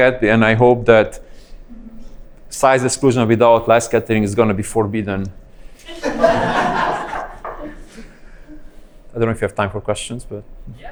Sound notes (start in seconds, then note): 5.6 laughing